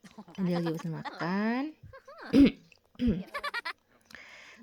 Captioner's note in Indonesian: tertawa